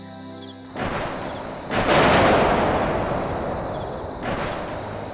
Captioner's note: thunder Rumbling